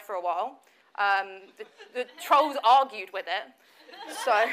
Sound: audience laughs

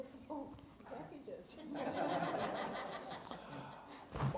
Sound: laughing

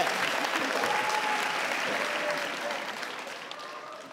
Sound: audience cheering

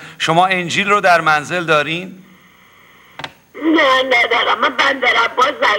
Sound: speaking in foreign language

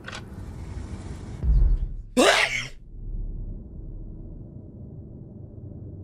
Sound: door opening; sneezes loudly; ominous ambience

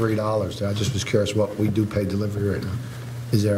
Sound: none

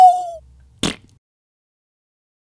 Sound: splat

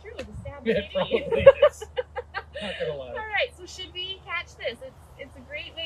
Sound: laughter

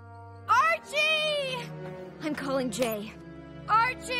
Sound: yelling

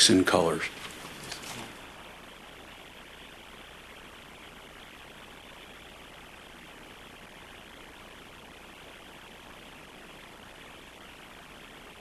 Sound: no speaking

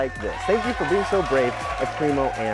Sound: canned applause

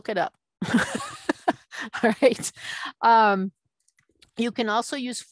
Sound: laughing

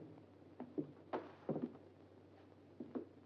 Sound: none

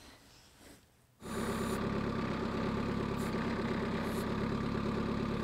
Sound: machine whirring

